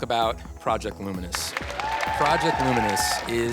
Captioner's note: applause